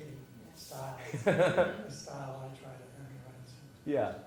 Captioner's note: laugh